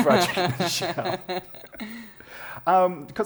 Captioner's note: laughter